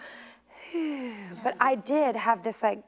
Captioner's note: exhaling